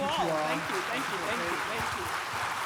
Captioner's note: audience clapping